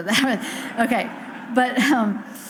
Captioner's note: audience laughs